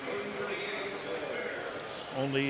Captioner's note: announcer speaking